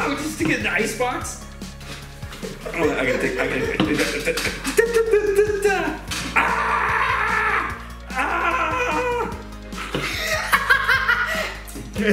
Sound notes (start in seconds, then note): 6.2 groans; 9.8 laughs